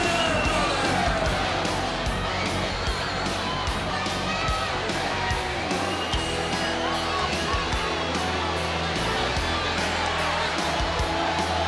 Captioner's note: crowd chatter